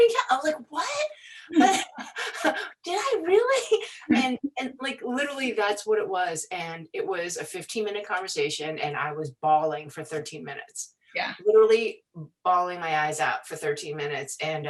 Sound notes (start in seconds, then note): 1.4 laughing